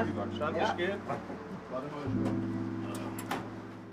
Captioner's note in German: Leise Gespräche, ruhige Musik